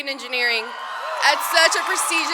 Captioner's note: audience cheers